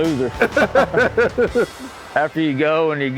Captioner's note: laughing